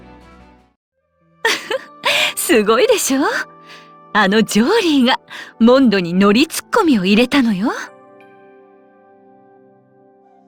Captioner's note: laugh